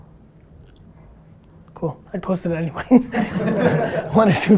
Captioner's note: group laughter